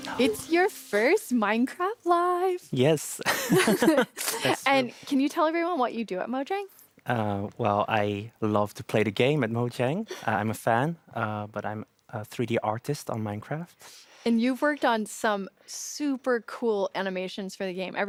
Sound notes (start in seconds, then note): 3.3 laughs